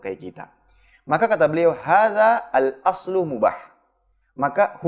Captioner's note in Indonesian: Bahasa Arab